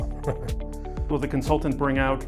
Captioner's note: laughs